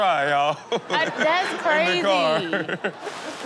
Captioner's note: laughs; audience laughs